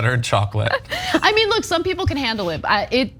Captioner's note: laugh